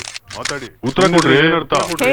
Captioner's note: reverb